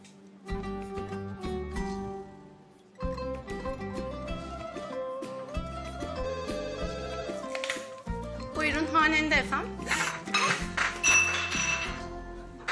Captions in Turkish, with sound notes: Buyurun, Hanende Fm ? (Bardak düşme sesi)